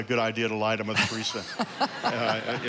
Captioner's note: congregation laughing